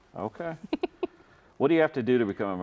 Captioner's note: chuckles